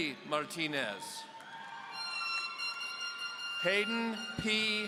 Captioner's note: audience cheering